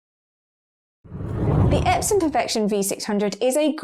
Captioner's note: video effect whooshes